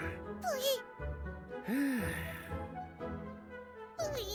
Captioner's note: stallholder sighs